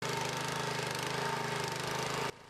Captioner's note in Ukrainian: Звук культиватору для орання землі